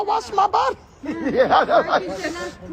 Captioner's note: Tiffany laughing